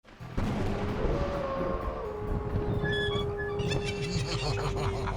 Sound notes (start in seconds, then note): 0.3 thunder rumbles; 1.1 wolf howls; 3.2 eerie cackling